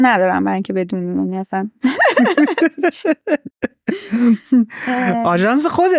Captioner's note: laughs